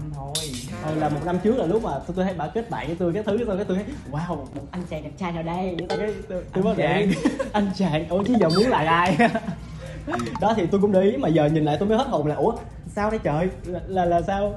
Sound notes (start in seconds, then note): 6.7 laugh